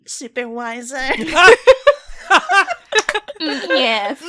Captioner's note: laughter